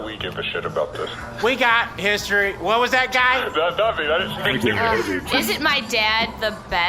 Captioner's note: laughing